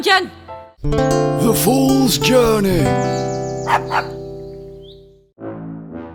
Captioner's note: dog barks